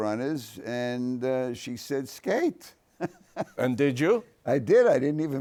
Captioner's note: laughs